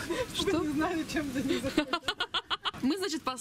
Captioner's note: laugh